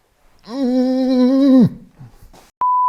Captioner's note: groans